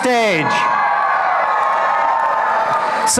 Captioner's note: applause and cheering